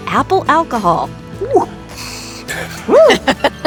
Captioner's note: exclaiming; laughing